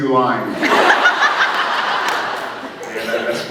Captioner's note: laughs